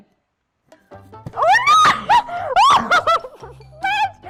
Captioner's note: screaming